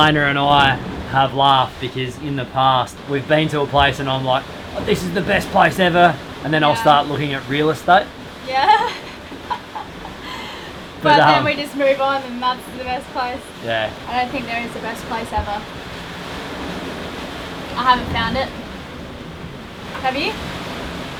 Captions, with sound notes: - Elayna and I have laughed, because in the past we've been to a place and I'm like this is the best place ever. Then I'll start looking at real estate. - (laughing) But then we just move on and that's the best place. - Yeah. - I don't think there is a best place ever. I haven't found it. Have you?